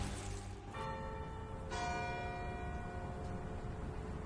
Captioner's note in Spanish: Campanadas